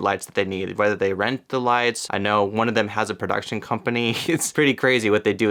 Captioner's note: giggles